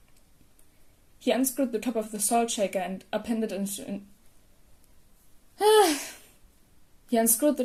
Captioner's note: heavy sigh